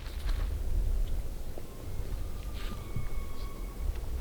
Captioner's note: elk bugling